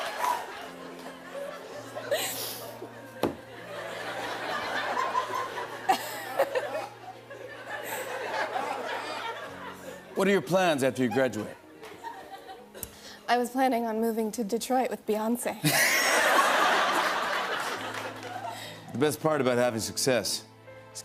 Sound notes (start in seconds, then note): 5.9 laughs; 15.6 laughter